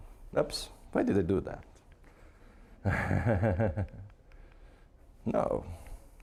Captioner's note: chuckling